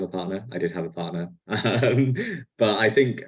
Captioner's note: laughs